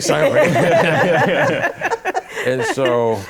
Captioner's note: laughter